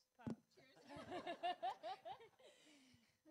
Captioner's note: laughing